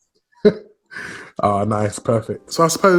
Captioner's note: laughs